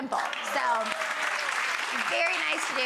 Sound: audience clapping

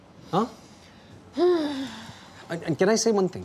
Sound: sighs

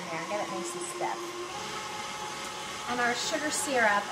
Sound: mixer hums

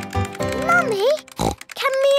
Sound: snorts

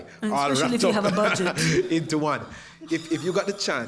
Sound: laugh

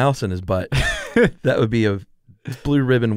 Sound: laughs

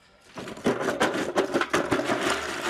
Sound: loud clattering

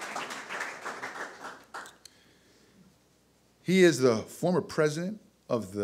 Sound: audience applause

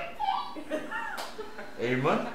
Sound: laughter

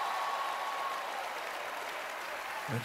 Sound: cheering, applause

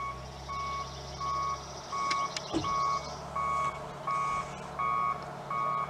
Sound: tractor beeping in the background

